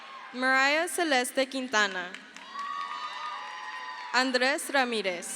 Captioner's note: crowd cheers; crowd cheers